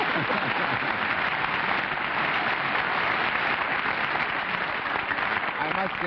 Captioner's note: laughter, applause